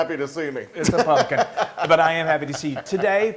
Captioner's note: laugh